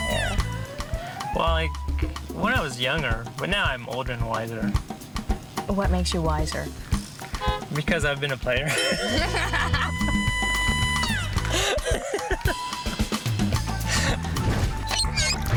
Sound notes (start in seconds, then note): 0.3 upbeat music; 8.6 laughing; 10.6 upbeat music